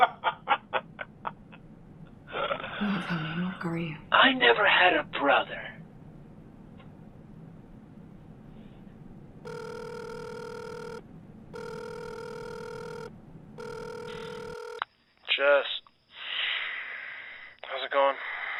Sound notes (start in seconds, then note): 0.1 Brick laughing; 9.4 phone ringing